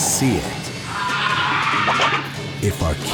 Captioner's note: shrieks